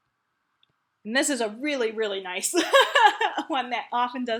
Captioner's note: laughs